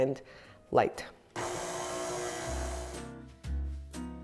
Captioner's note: mixer growling; lively music